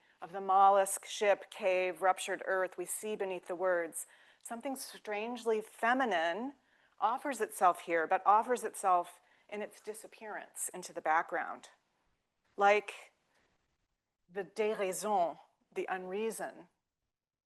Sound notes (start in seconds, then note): 12.7 speaking French